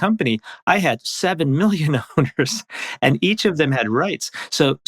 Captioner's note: laughs